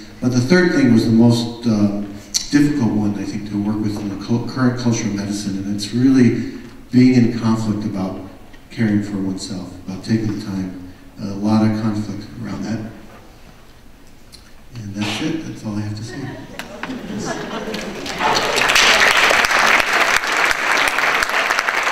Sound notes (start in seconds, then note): 16.1 audience laughs; 16.6 audience applause